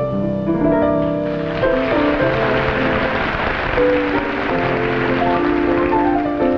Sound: audience applauding

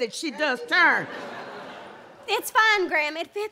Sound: audience laughs

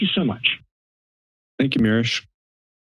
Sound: silence

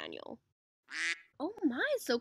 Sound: quack

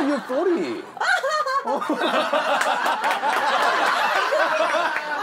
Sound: laughing

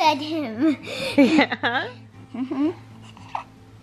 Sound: laughing

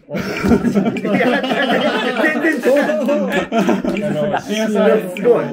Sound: laughing

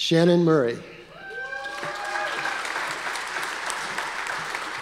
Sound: audience applause

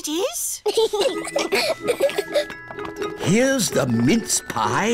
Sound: both giggling

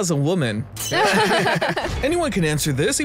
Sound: laughs

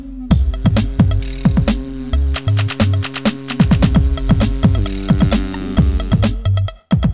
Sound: buzzing

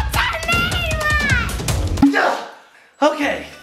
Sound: dad grunts

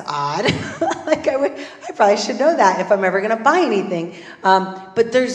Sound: laugh

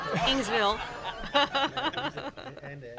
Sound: laughs; audience laughing

